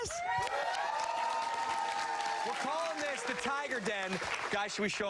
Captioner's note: cheers and applause